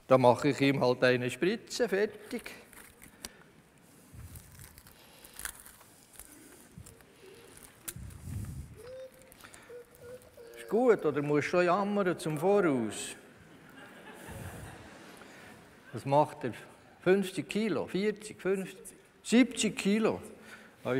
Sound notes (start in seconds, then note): 6.7 dog whimpers; 13.4 laughter from the audience